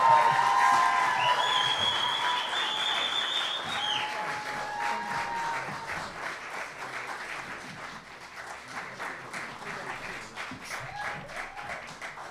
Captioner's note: applause